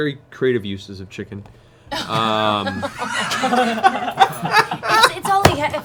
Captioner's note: laughter